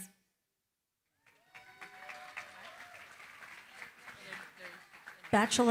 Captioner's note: applause